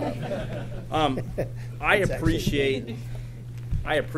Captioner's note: laughter